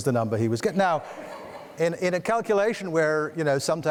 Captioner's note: audience laughing; audience laughs